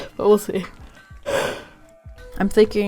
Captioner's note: yawns